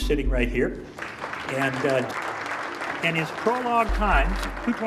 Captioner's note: audience applauding